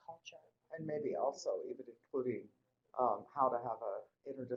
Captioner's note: voiceover